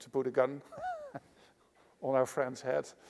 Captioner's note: laughs